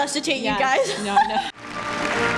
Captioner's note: laughs